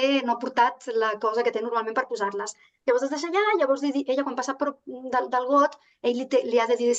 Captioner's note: continues speaking in Catalan